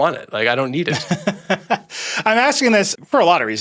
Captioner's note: laughing